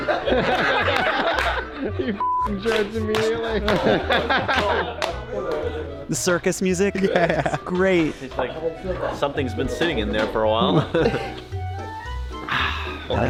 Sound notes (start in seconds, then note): 0.0 host clapping; 0.0 playful music; 0.0 all laughing; 10.9 playful music